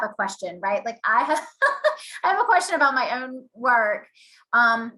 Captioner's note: laughs